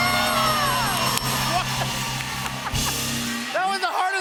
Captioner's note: cheers and applause; laughs